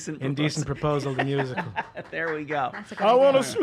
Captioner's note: laughing